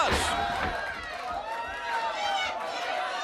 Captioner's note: crowed chatter; crowd cheering; crowd chatter